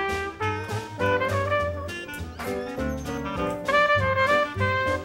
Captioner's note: door squeaks as it closes